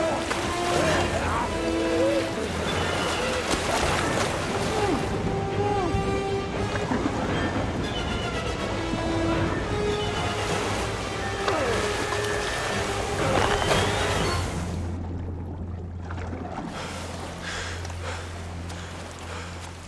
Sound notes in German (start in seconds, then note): 0.9 Keuchen, Grunzen; 4.5 Gedämpftes Grunzen; 11.0 Grunzen; 16.5 Hecheln